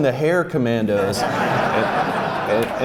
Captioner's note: laughs